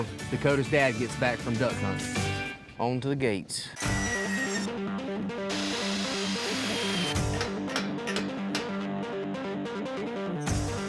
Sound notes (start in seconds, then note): 5.4 drilling; 7.2 hammering